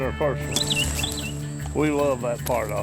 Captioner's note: birds chirping; crunching footsteps